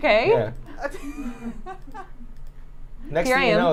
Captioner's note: laughing off-screen